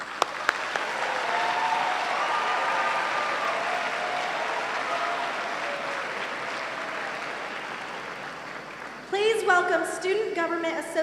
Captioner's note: applause and cheering